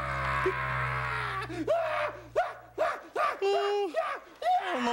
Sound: crying

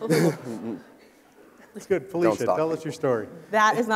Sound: people laughing

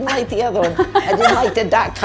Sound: laugh

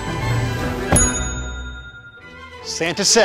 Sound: ding

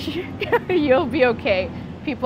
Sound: laughs

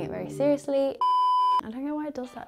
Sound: screen beeping

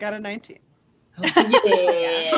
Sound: laughter and cheering

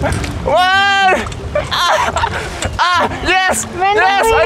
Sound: sounding like he's giving birth

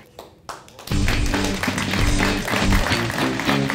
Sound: applause; upbeat music

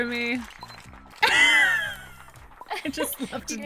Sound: laughs

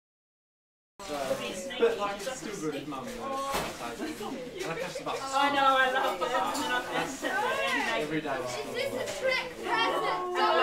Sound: sound of handing gifts

